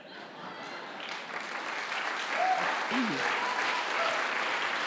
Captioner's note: laugh; applause